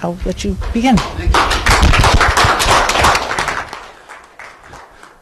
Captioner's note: audience applauds